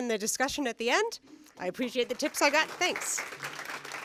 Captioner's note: applause